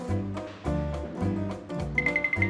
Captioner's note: none